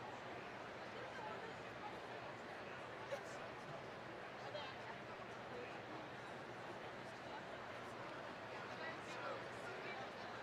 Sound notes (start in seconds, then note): none